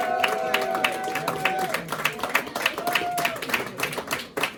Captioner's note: cheering